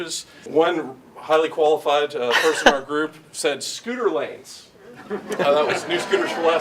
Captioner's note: group laughter; laughs